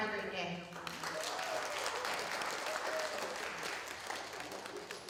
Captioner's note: applause